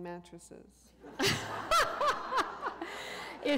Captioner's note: laughter